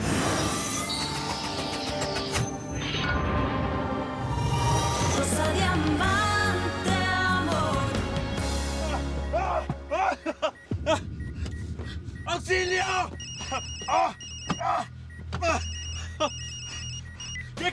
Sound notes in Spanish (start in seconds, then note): 5.7 Tema musical; 9.0 Gritos y exclamaciones; 13.0 Suena el celular; 14.4 Gritos